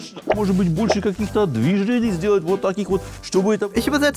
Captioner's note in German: Er spricht weiter auf Russisch